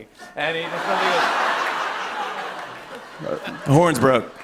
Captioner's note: laughter